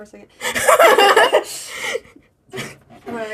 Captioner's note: laughs